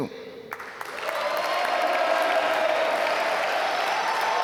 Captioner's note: applause